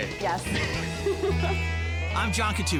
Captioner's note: both laughing